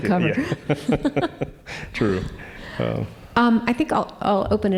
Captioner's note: chuckling